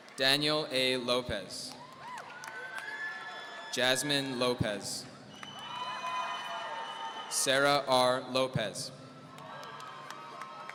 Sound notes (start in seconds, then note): 5.3 audience cheering